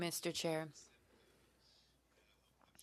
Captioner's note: speaking French